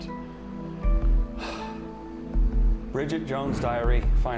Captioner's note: sighs